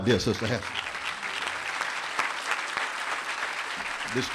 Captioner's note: applause